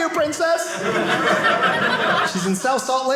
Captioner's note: audience laughing